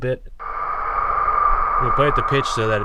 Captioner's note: air whooshing